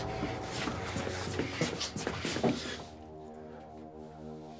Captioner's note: heavy breathing